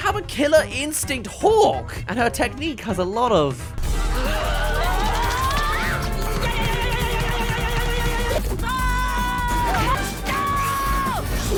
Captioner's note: screaming